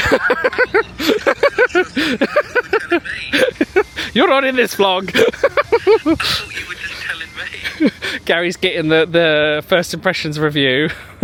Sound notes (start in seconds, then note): 0.0 laughing